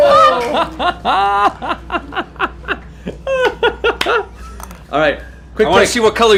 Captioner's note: laughs